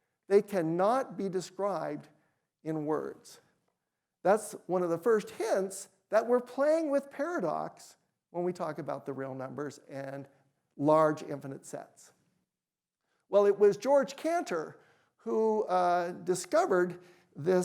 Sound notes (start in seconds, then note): none